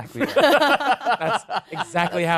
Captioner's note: laughing